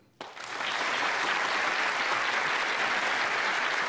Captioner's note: applause